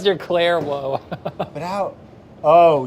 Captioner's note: chuckles